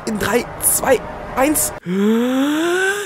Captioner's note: inhales